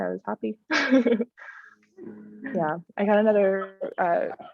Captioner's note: laughter